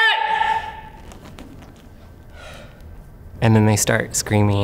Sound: breath

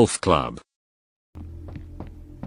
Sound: footsteps

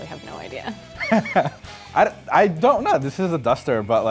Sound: laughs

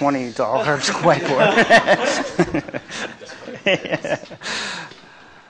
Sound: laughter

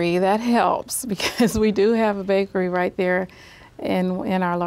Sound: laughs

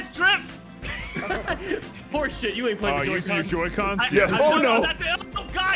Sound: laughs

